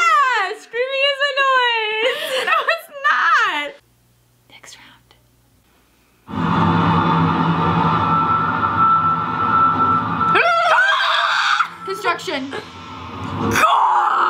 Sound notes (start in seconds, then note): 2.1 laughs; 6.4 high pitched tone; 10.2 trills